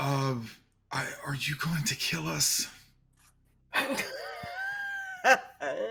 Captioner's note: people laughing